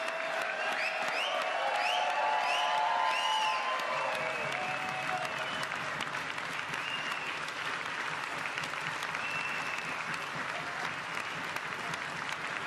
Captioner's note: applause